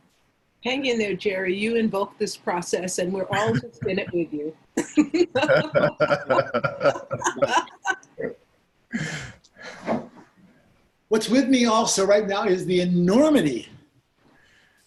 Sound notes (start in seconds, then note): 4.8 laughing